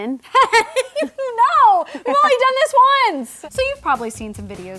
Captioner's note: laughs